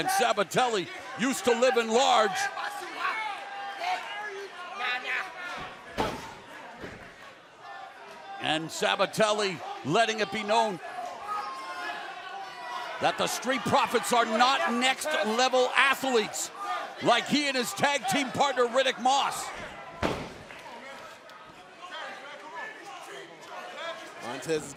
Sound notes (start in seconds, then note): 3.3 crowd chatter